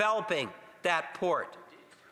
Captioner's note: none